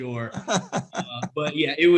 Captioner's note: laughs